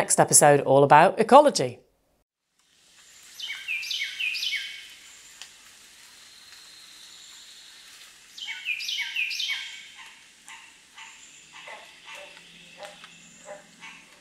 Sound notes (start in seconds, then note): 2.7 water rushing; 3.1 birds chirping; 8.9 wildlife bustling